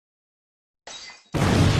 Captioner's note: ball shatters; explosion